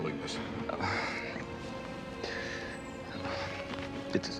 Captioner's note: birds chirping